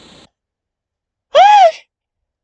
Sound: static; another scream of fear

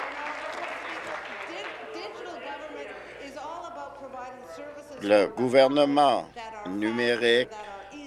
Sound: applause

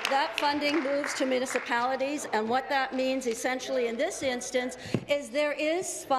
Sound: applause

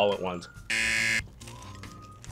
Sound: buzzer

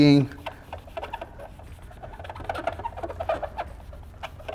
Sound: squeaking

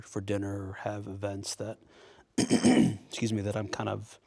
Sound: clears throat

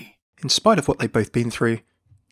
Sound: voiceover

